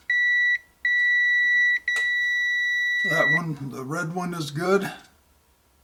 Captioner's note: beep - meter sound